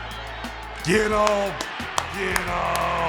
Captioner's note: clapping